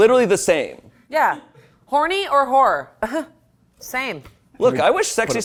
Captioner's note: laughs